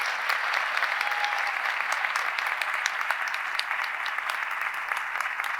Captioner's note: audience member cheers